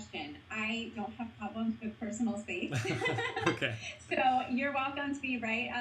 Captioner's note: both laughing